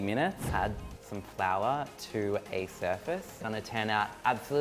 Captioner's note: whooshing